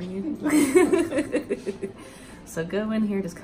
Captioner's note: laughing